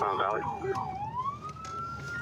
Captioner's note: sirens